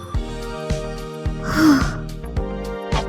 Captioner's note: exhale